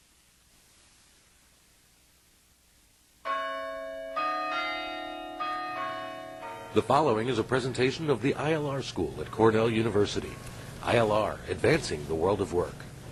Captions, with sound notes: [BELL TOLLING] The following is a presentation of the ILR School at Cornell University. ILR-- advancing the world of work.